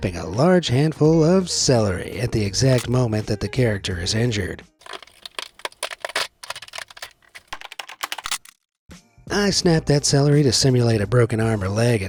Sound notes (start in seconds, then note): 4.8 celery crackles; 7.6 keys clanks, finger cracks